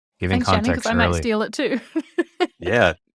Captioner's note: laughs